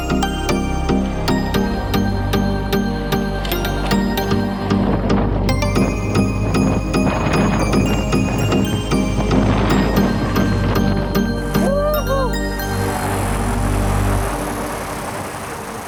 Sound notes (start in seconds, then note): 4.4 wind blasting; 12.9 wheels whirring